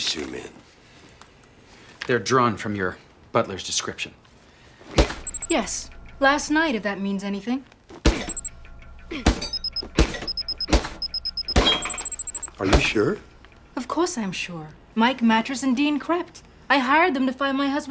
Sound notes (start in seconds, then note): 9.1 grunting; 10.2 robot beeping